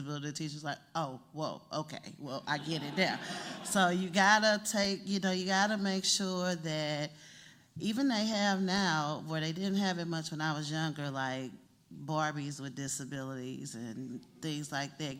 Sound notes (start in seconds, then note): 2.5 laughter